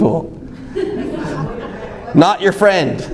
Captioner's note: audience laughs